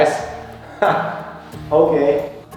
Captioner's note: laughter